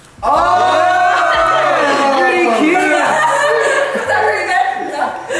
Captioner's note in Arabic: يضحك